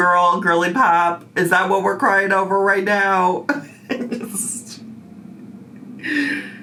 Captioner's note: laughs